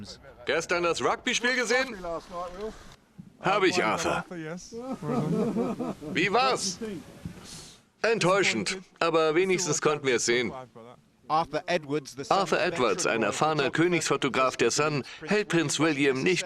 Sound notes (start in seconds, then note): 0.2 voiceover; 4.8 photographers laughing; 6.4 voiceover; 11.4 voiceover